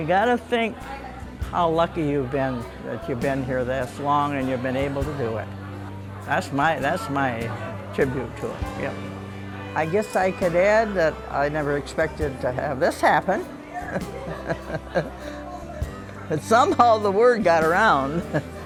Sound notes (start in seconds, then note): 13.4 laughs